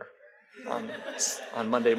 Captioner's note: audience laughs